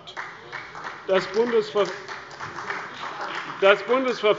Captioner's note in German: Beifall bei der CDU